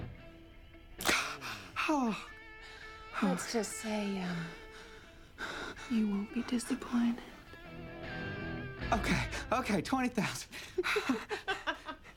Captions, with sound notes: [GASPS] Let's just say, um, you won't be disappointed. Okay, okay, 20,000. Ha-ha-ha.